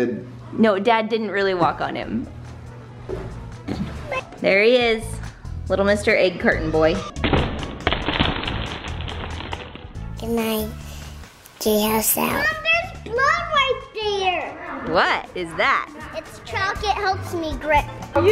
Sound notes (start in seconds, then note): 7.8 slow crunching